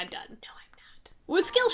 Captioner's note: whispering